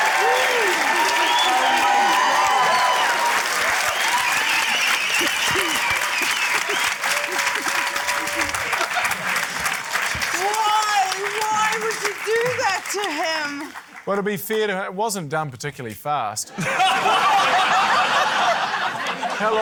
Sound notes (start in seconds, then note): 0.1 cheering, applause; 2.4 cheering, applause, whistling; 16.5 laughter